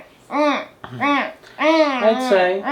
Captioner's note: humming